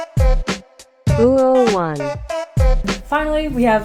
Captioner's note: computer voice: oooh one